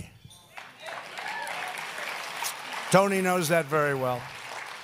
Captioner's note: applause